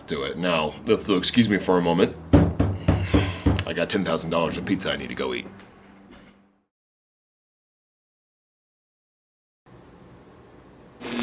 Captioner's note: door knocking